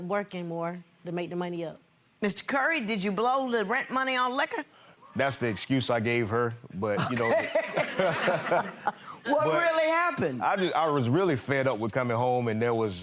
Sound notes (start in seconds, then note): 7.0 laughing